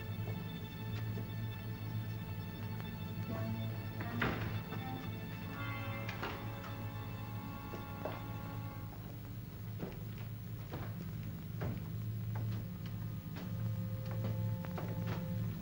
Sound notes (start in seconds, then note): 3.5 door thuds downstairs; 6.4 ominous music; 9.7 footsteps up stairs; 9.7 ominous music